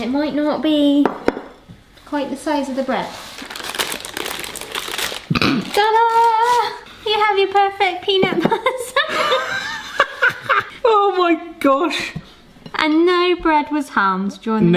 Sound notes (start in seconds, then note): 3.0 parchment paper crinkles; 8.4 laughter